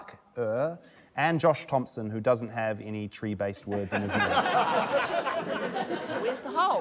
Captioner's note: laughter